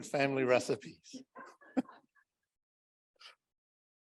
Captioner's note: laughter